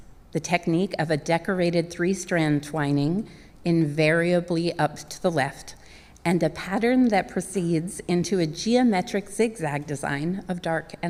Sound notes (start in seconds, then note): none